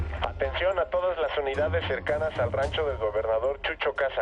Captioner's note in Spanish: Voz en el radio